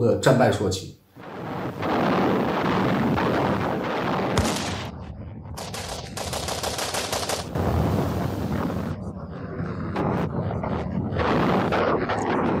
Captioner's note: sounds of artillery fire